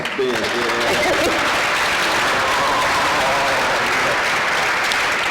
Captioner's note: applause